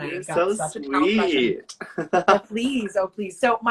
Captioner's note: laughs